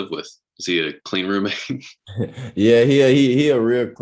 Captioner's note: laughs